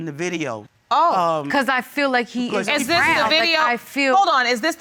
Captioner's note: both clamoring